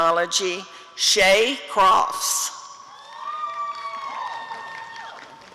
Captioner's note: applause and cheering